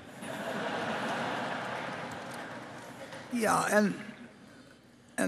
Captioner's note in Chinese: Applause; 掌聲